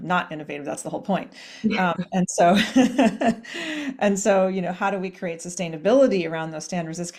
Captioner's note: laughs